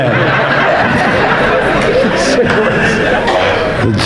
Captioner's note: audience laughing